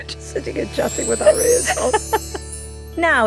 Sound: Giovanna laughs

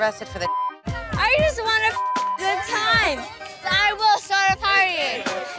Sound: beep

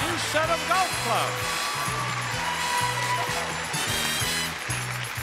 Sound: audience cheering

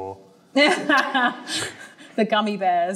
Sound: laughs

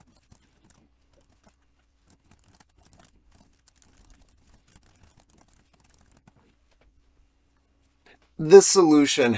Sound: typing

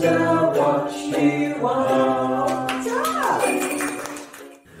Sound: applause

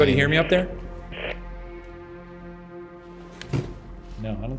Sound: static buzzes

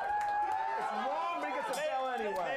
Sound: audience cheering

